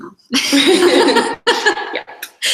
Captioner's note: both laugh